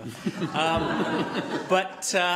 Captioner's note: laughter